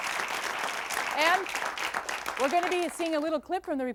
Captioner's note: applause and hoots; applause fades